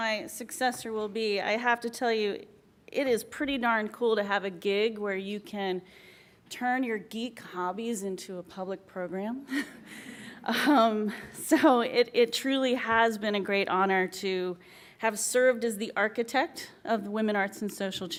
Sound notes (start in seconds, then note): 10.7 laughs